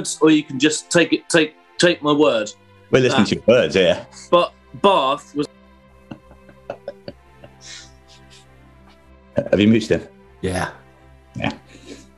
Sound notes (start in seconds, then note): 5.7 silence; 6.1 chuckling